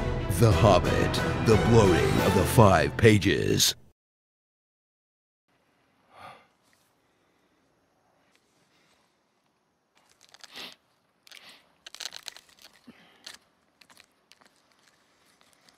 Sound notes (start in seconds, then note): 5.5 silence; 10.1 rustling of tobacco